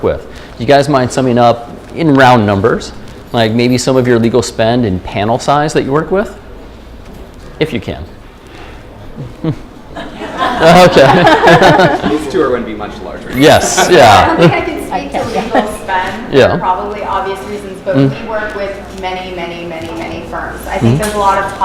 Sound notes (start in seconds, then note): 9.9 laughter; 10.6 chuckle